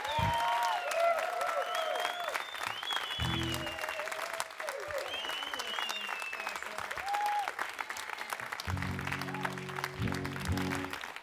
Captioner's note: crowd applause